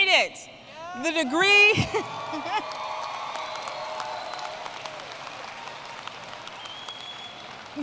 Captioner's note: applause